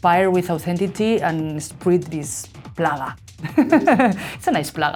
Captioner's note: laughs